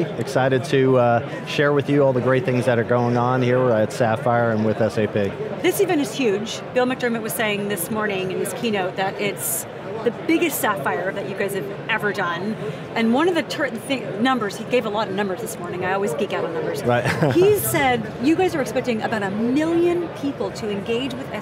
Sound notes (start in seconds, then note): 16.9 laughs